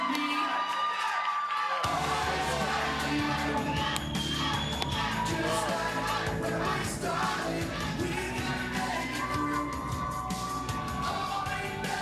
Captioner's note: cheers and Applause